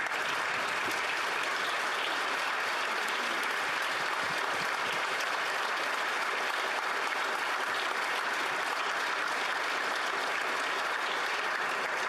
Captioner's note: applause